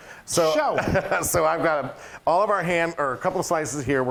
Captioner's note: laugh